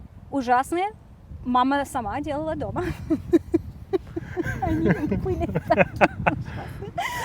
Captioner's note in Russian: оба смеются